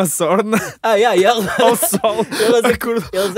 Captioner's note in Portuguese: risos